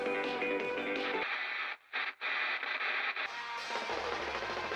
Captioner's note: television static